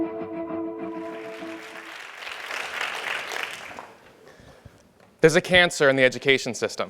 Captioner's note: applause